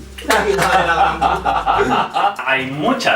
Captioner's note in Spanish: Risas